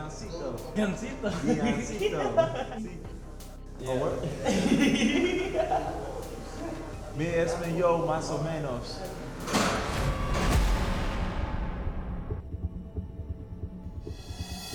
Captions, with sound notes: Deioncito? [laughs] Deioncito. Oh, what? [laughs] [speaking spanish]